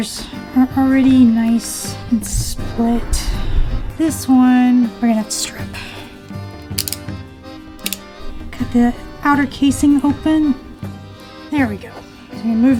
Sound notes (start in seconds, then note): 6.6 box cutter clicks